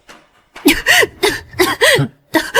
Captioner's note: cough cough